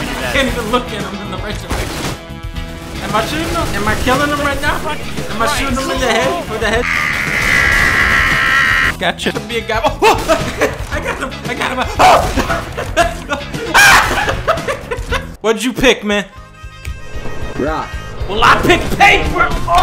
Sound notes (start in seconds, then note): 6.6 yelling; 11.8 laughing